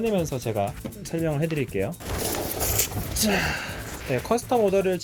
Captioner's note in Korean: 부스럭